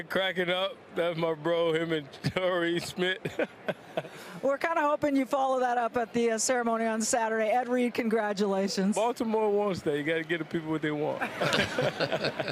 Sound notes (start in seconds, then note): 3.1 laughs